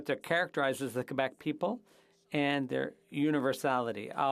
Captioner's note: speaking French